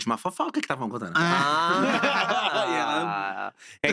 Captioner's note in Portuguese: risos